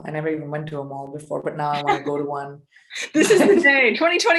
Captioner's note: laughing